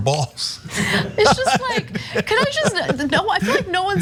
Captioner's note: laugh